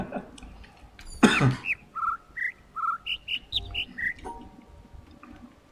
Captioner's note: overlapping birds chirping, ˥ ˥ ˩ ˧ ˩; coughs; chuckles